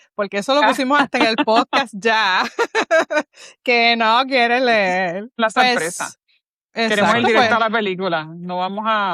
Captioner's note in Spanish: risas